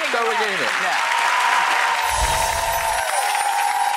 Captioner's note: audience applause; ethereal chimes